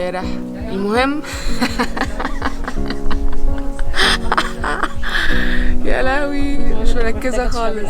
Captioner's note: laughing hysterically for no reason other than being so tired